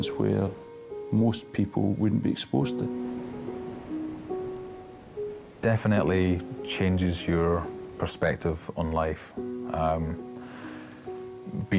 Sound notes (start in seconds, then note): 3.2 waves splashing; 9.8 somber instrumental music